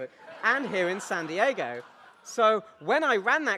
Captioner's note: audience laughs